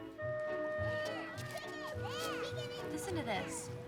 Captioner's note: children playing